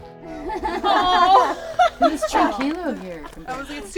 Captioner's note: laughing